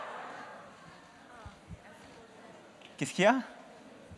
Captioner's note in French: Rires